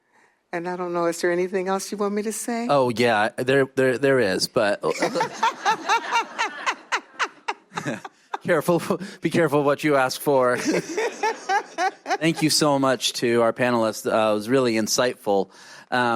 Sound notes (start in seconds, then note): 4.9 laughter